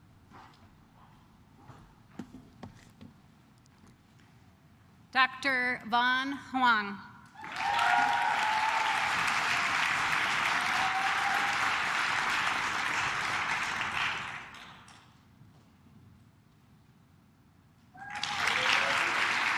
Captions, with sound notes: - Dr. Vaughn Hwong. (claps)